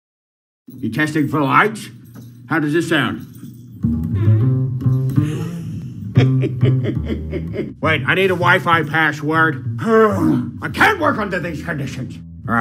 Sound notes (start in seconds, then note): 3.9 squeaky Fart; 5.2 Grinch Snickering; 10.0 sighs